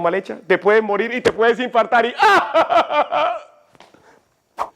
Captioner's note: aghhhh